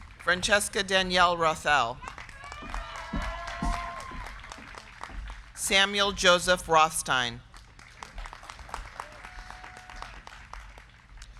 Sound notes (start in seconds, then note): 0.0 crowd cheering; 0.0 crowd clapping; 1.7 crowd clapping; 2.0 crowd cheering; 7.3 crowd clapping